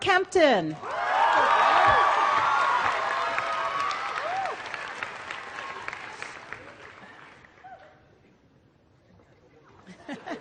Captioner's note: applause